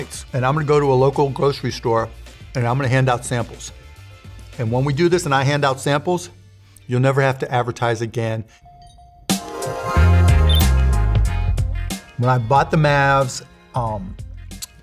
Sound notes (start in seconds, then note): 9.2 upbeat music; 10.4 beeping; 11.3 upbeat music